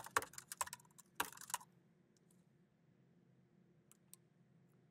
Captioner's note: keyboard clacking